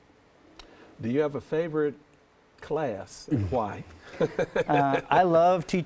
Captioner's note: laughs